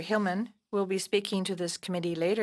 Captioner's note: speaking French